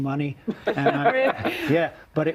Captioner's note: hosts laughing